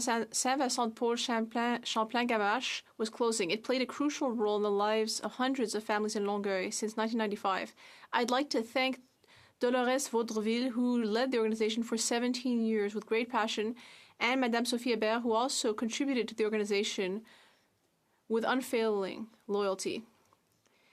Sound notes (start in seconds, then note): 7.0 speaking French